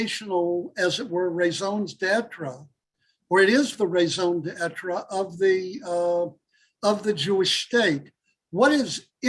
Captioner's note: Hebrew